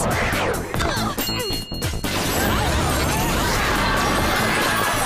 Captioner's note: oohs and ahs